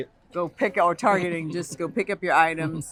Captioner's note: laughter